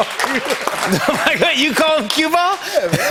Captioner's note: laughing; laughter